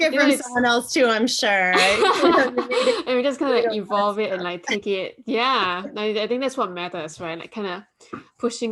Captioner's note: laughter